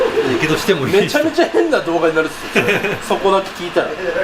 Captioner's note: laughs